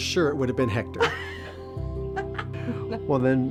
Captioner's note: laughs